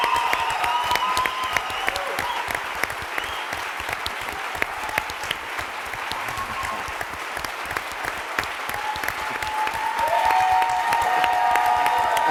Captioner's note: applause and cheering